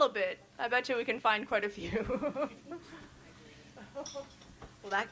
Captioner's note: chuckles